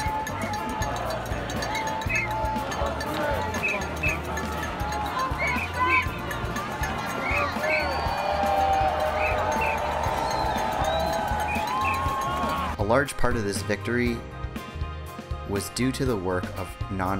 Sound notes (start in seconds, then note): 0.3 crowd blows whistles, rings cowbells; 6.8 cheers